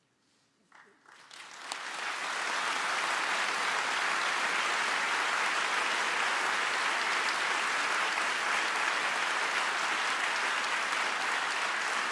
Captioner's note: applause